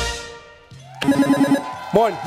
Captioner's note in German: Musik verklingt; Jubel